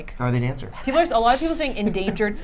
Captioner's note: laughing